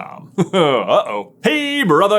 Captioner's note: nervous chuckle